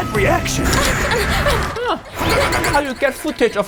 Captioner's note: judges panting